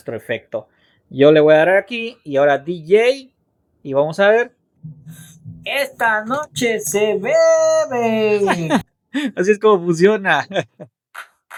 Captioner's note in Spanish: risas